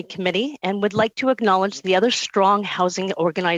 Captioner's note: speaking alternate language